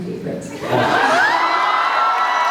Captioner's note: laughs, cheers; cheers, applauds